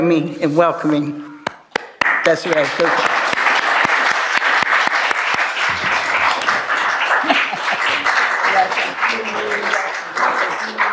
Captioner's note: applause